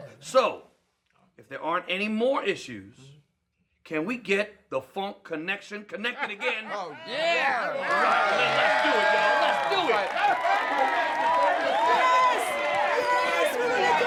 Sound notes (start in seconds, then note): 6.9 audience cheers